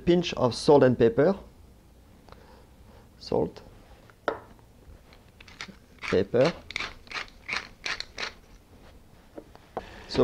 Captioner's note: grinding noises